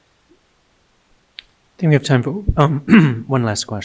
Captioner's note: clearing throat